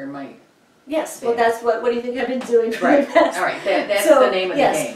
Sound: chuckles

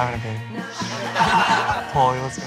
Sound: laughs

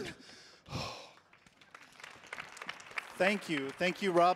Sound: sighs; audience applauding

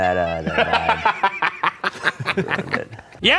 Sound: laughs

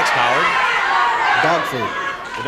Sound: audience calling out

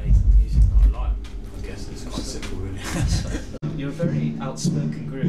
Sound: laughs

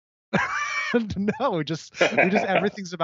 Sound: laughs

